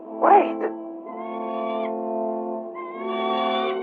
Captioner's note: bird squawking